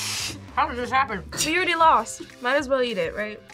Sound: snickers

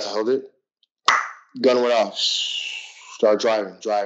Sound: pop

